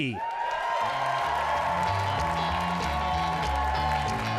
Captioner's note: audience cheering